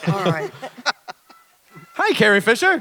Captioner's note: Isaac chuckles